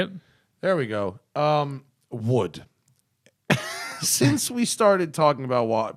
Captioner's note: laughter